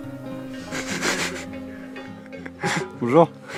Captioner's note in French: rires